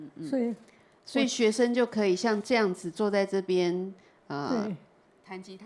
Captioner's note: Mandarin; Mandarin